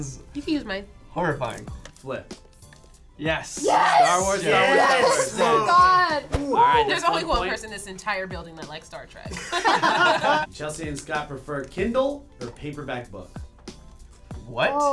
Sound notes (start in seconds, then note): 9.3 laughter